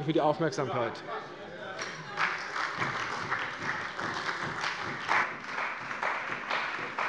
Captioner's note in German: Beifall bei der CDU und BÜNDNIS 90/DIE GRÜNEN